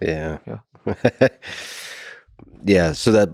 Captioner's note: Lex laughing